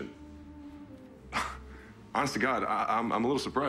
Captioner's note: scoffs